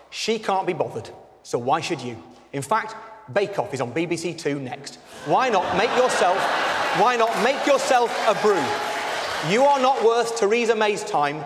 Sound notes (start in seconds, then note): 5.2 audience laughter and applause